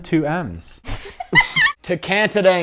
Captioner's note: laughter